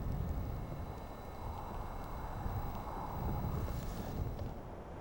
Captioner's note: sound of wind blowing